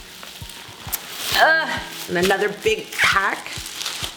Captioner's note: groans